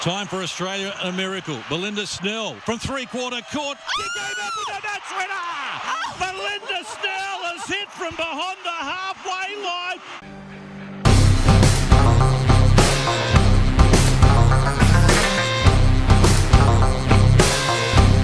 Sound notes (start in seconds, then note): 3.8 screaming; 10.2 dramatic music